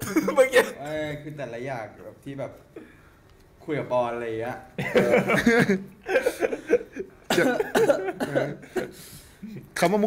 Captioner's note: coughs